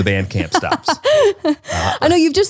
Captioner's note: laughs